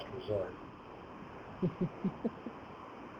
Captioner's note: chuckle